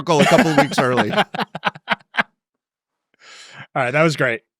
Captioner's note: attendees laughing